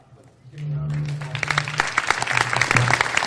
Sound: applause

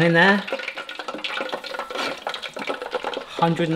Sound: oil popping

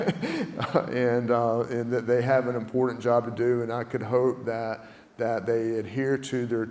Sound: laugh

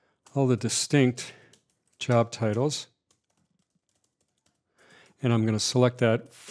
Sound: keyboard typing

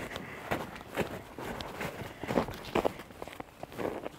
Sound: snow crunches

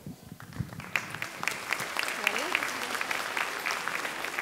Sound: audience clapping

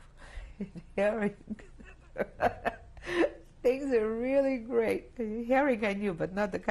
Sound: laughs

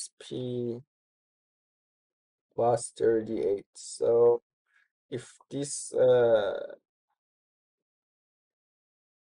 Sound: pause

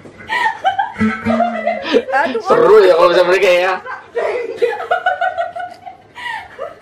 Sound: laughs

